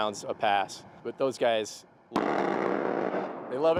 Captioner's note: roaring gunfire